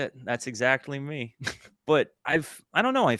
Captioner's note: chuckle